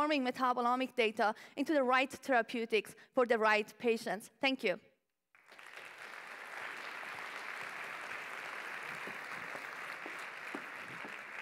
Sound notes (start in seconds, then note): 5.3 applause